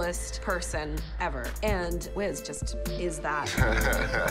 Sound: laughing

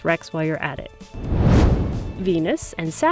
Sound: whoosh

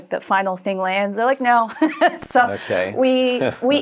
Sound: chuckles

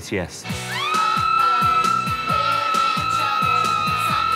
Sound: screaming; continued screaming

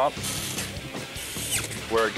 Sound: screwdriver wheezing

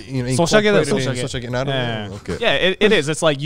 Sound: speaking in foreign language

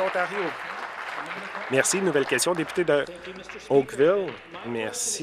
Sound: applause

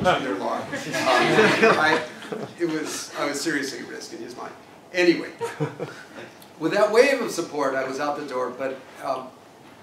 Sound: laugh

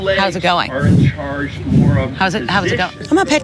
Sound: horse breathing on mic

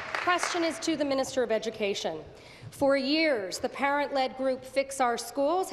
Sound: applause

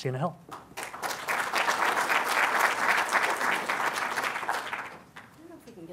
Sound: applause

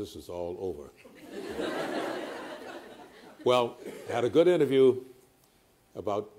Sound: laughter

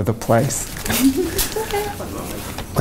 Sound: laughs

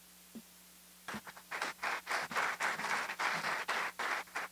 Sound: applause

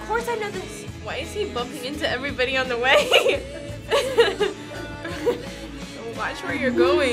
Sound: laughs

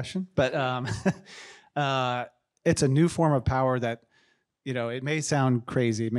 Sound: chuckles

